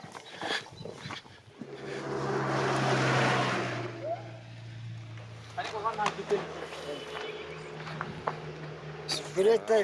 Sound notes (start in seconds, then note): 1.6 truck throttles; 5.5 speaking in foreign